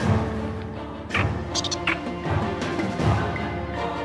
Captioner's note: creatures chirp; dramatic music